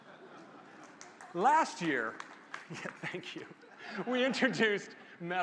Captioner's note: applause